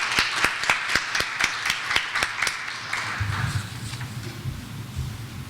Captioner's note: clapping